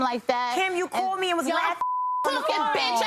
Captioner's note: beep